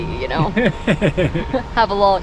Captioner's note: laughs